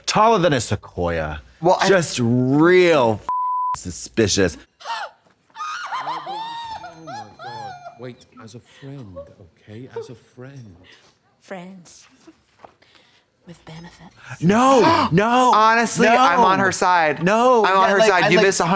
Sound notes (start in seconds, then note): 3.3 beep; 4.8 squealing